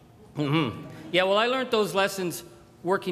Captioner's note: crowd chuckles